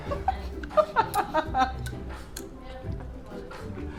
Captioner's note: laughs